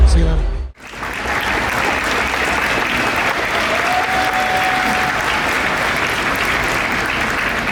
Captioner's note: clapping